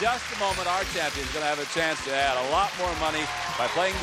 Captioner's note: applause; theme music playing